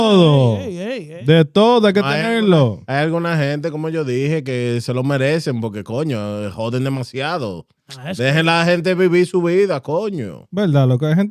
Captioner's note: speaking In Foreign Language